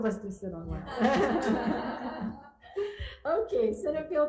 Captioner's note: laughter